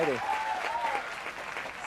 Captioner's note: crowd cheering